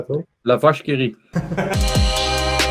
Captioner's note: laughter